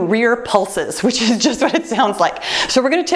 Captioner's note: chuckles